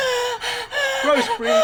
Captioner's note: Rose breathing heavily